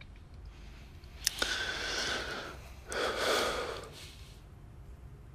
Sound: deep breath

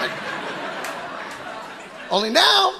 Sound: audience laughing

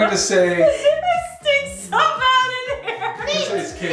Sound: laughing

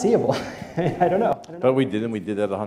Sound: chuckle

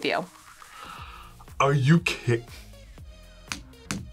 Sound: gasps

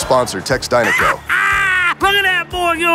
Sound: laughs

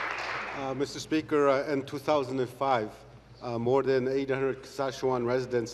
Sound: applause

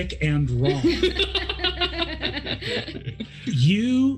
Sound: group laughs

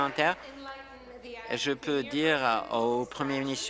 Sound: applause

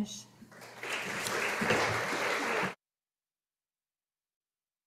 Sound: audience applauding

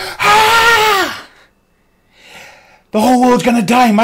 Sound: screams

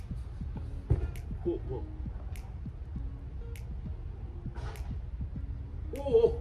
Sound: thud

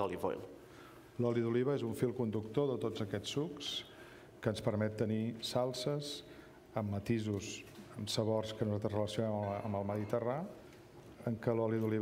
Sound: speaking catalan

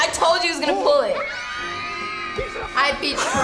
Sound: children screaming

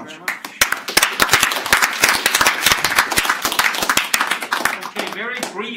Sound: audience applauds

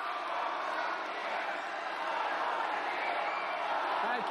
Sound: cheering; chanting "Four more years!"

